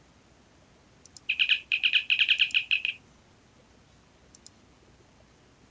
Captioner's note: siren chirping; mouse clicking